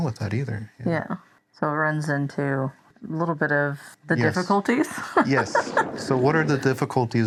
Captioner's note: laughs